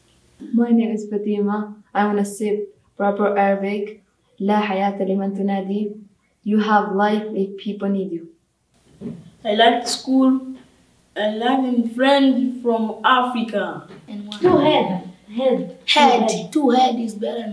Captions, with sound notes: My name is Fatima. I'm gonna say a proverb in Arabic. (Speaks Arabic) You have life if people need you. I like school and learning. I have friends from Africa. Two heads are better than one!